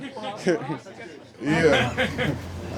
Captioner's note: laughter